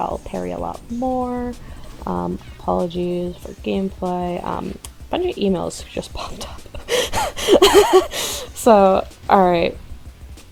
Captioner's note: loud laugh